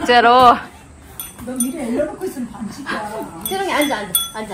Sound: she keeps ringing the bell😁

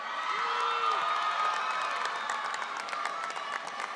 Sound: audience cheering

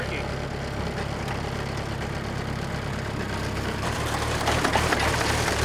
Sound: machine continues to rumble

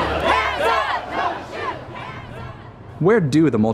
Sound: crowd

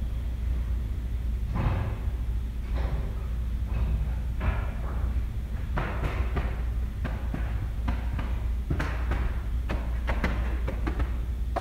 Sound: excitedly? returns tapping

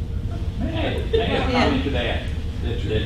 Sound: voiceover

